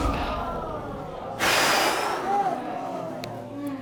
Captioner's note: exhales